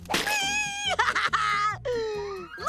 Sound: laughing

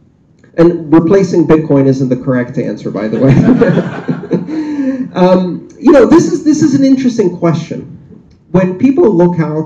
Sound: laughter

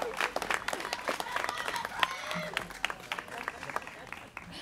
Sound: students cheering

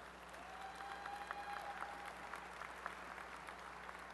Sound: applause

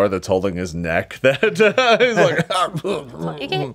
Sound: coughs and splutters

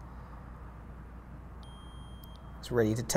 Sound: meter beeps

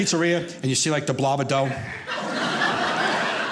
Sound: audience laughing

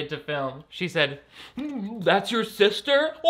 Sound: light choking

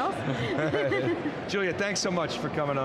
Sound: laughs

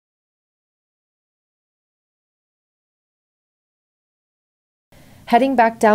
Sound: no speech present

